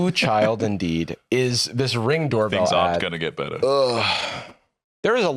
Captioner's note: groans